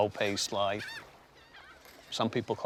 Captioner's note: gulls calling